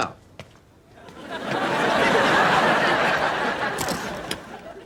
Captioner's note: audience laughs